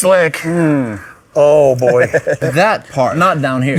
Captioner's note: laughs